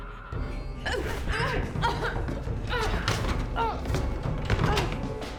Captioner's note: Claire whimpering